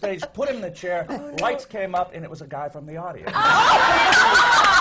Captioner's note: laughter